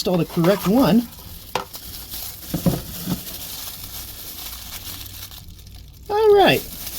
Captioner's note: crinkling glove ASMR